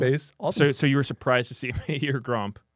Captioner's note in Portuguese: risos